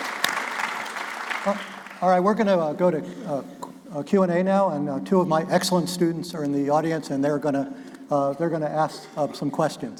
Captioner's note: applause